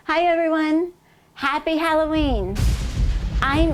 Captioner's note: thunder clap